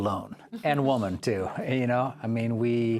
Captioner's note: chuckling